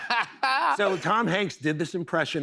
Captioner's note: normal voice